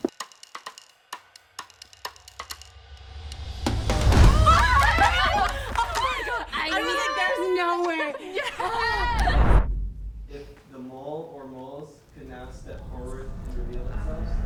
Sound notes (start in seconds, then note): 0.2 foreboding music plays; 4.0 cheers enthusiastically